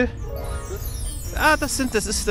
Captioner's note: squeaks